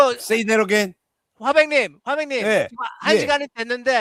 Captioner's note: non-english speech